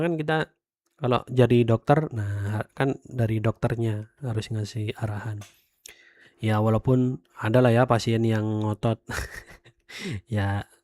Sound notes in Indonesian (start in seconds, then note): 9.2 tertawa